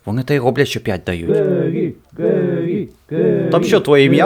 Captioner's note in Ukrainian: скандують